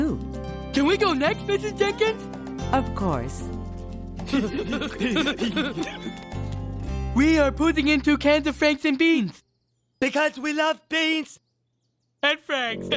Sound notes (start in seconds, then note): 4.2 giggling; 12.7 laughing